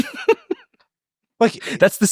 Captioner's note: laughing